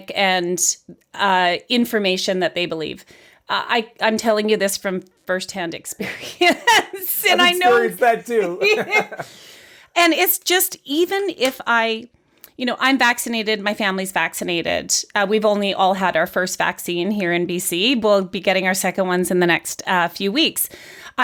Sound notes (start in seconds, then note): 6.0 laughs; 9.1 laugh